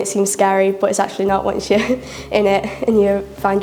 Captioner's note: laughs